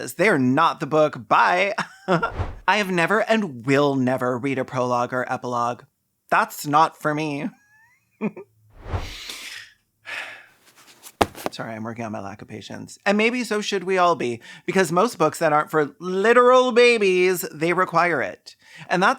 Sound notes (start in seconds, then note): 8.7 sighing so I’m not screaming; 10.6 sound of flightless book flying